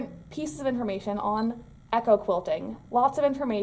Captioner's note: beeping noise